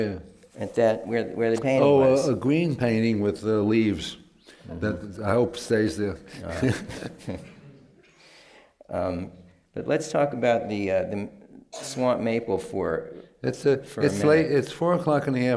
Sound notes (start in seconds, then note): 6.2 laughs